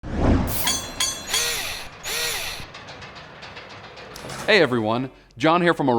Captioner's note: mechanical SFX